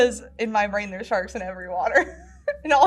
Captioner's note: laughs